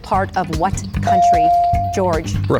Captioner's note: bell dings